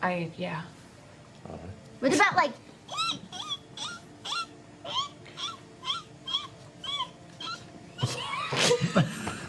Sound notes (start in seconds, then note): 2.9 high-pitched squeaking; 8.0 laughing